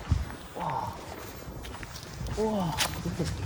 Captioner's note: gasps